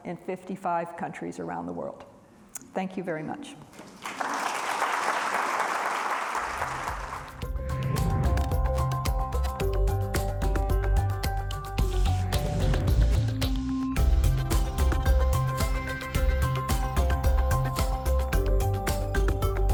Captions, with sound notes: in 55 countries around the world. Thank you very much. (audience applauds) (upbeat music)